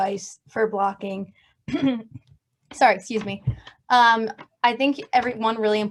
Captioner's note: coughs